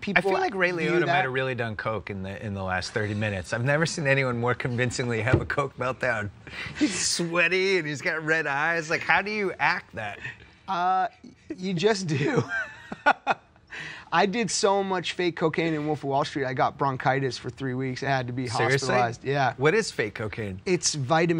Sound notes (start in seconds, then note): 6.7 jonah laughing; 12.1 both laughing